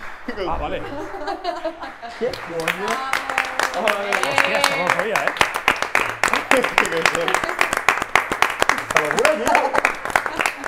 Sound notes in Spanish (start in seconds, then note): 2.2 aplauden